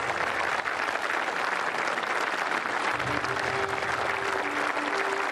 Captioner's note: applause